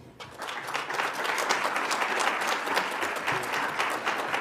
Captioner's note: audience applauds